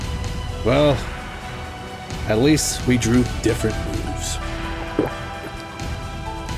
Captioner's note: Rao drinks